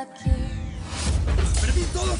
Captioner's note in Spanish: Estruendo